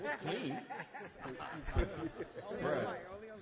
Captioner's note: all laugh